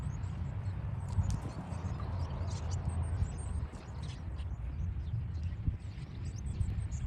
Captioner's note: birds chirping; wind blowing